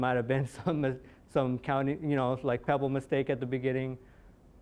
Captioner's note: chuckling